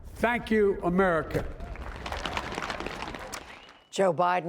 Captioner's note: cheering and applause